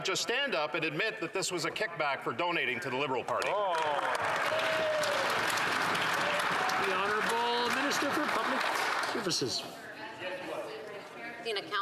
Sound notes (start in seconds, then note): 7.7 some Applause